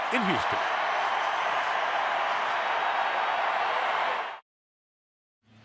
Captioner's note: cheering